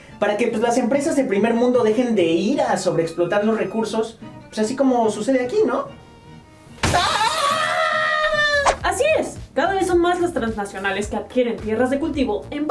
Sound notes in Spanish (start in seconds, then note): 6.9 grito